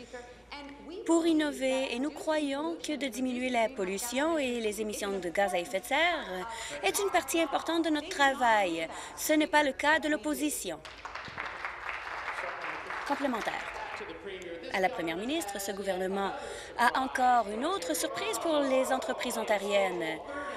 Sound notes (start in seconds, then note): 13.7 applause